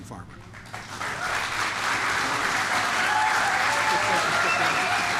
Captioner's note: applause